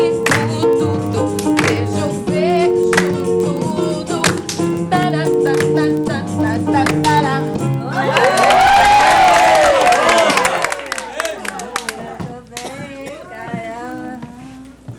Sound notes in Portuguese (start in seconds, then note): 8.0 aplausos